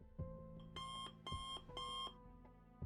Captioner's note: beep beep beep